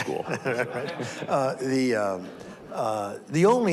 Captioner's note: audience laughs